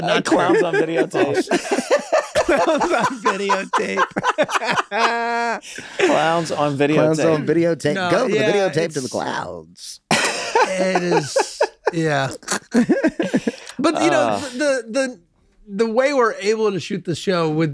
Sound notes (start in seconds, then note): 2.1 laughs; 5.3 laughs; 10.1 laughs